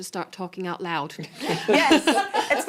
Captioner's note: laughing